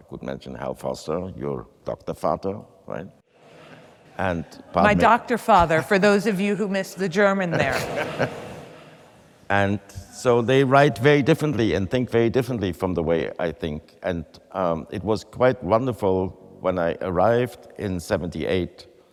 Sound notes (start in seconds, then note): 7.4 some attendees laugh; 7.5 chuckles